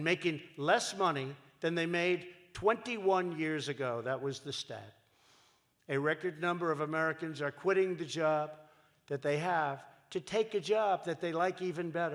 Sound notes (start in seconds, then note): none